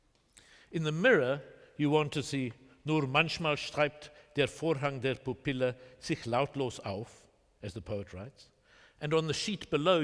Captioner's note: german